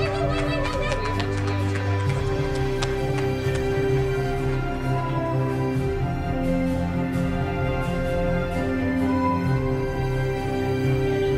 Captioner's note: applause